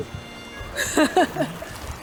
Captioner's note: laughing